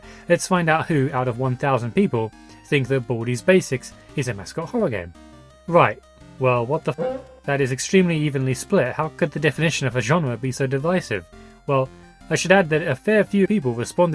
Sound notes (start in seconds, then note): 6.8 Baldi's cuica SFX